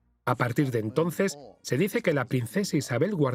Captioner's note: voiceover